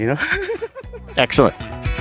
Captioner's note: laughing; upbeat music